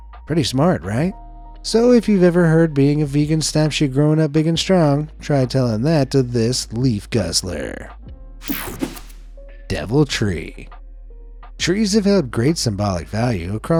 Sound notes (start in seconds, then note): 8.4 page swishing; 8.4 page whooshing